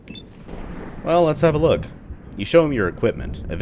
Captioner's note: thunder